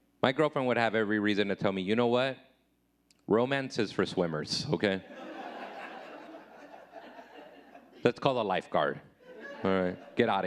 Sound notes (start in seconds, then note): 5.1 audience laughing